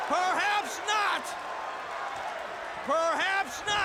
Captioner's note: crowd cheering